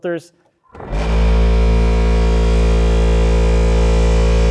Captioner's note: engine roaring